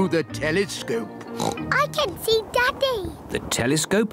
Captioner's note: oinks